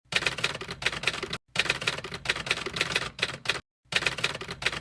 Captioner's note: typewriter keys clacking